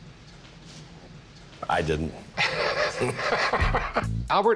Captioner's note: both laugh